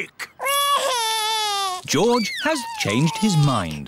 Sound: crying

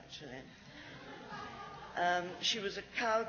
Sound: laughs

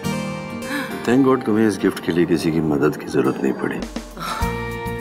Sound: gasps; Ananya laughs

